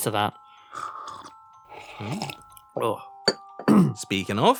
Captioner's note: both slurping drinks